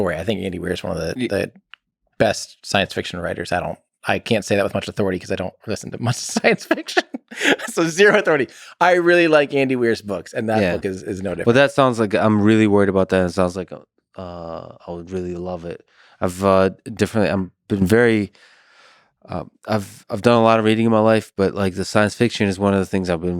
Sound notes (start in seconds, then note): 6.1 Tim laughs